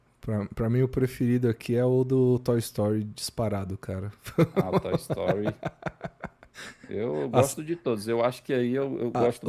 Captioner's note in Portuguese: risadas